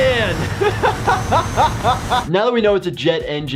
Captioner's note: laughs